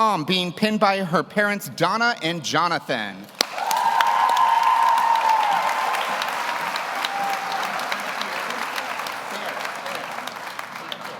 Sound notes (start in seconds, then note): 3.3 audience applauds; 3.4 audience cheers